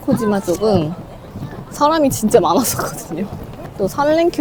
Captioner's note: laughs